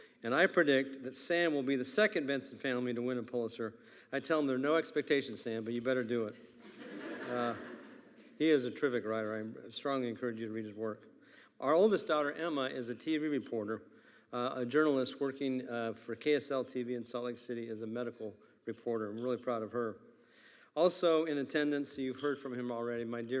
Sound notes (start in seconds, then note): 6.4 attendees laughing